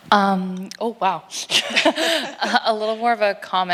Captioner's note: laughs